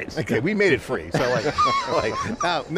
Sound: group laughing

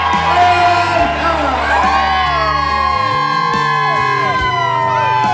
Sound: cheers

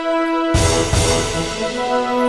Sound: boom

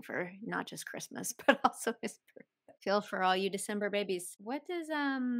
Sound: laughter

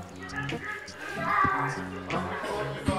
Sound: more shop noise

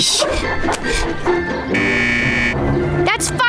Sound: buzzing

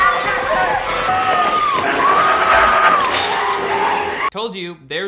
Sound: ghost and Kathy screaming; metal cage banging

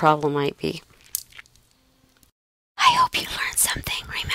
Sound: whispering

